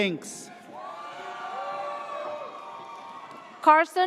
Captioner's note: audience cheers